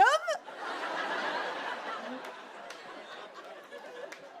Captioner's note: laughter